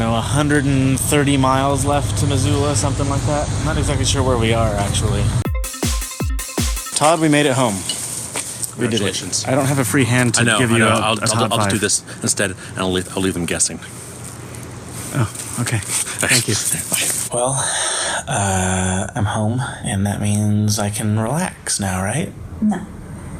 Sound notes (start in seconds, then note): 5.4 fast-paced transition music; 15.4 breathy; 16.5 also breathy; 17.4 huge sigh